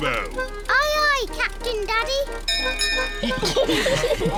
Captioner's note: bell rings; all laugh